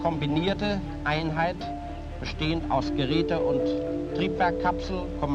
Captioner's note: speaking German